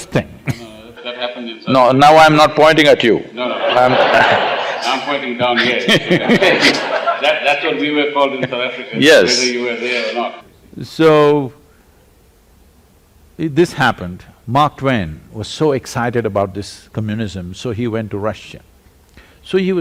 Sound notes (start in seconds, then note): 3.4 laughter; 7.4 laughs